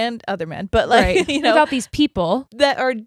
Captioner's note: laughs